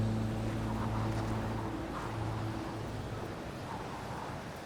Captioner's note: wind gusting